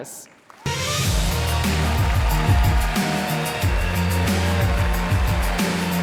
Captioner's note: audience applauding and cheering; upbeat music